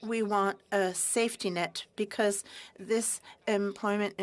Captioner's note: speaking french